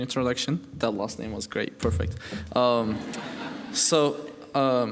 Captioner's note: laughing